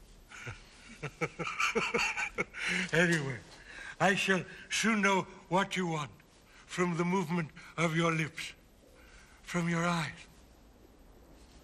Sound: laughing

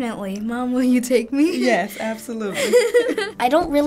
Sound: laughs

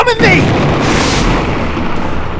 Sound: thunder crash

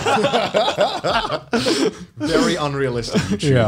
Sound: laughs

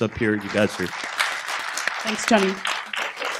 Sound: applause

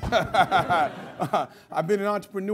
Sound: laughter

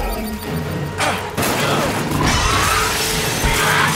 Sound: gun firing; Owen screams; roof shatters

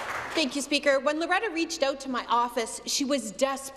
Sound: applause

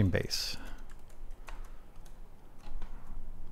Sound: typing

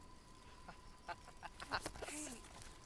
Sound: laughing

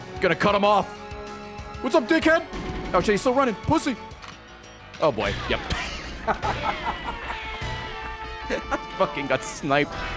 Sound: laughs

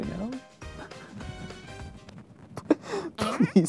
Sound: laughs

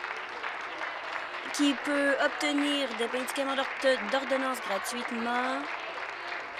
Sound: applause

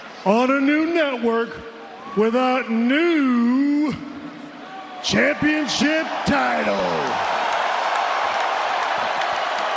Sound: applause

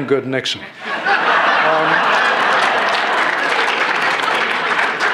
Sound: laughter

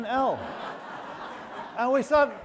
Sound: audience laughing

